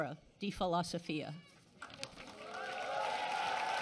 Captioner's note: applause and cheering